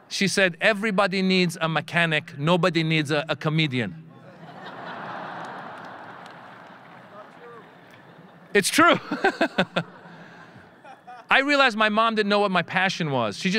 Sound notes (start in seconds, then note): 4.2 audience laughing; 8.9 laughing